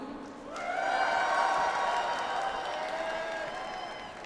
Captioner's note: audience applauds